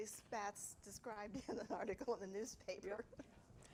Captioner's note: laughs